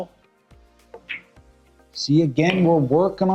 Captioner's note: ball smacks